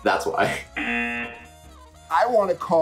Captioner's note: buzzer